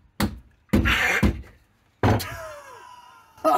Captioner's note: gasp; laughing